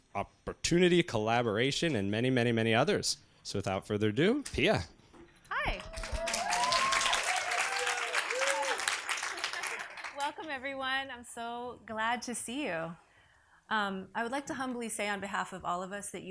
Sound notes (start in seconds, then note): 5.7 audience applauds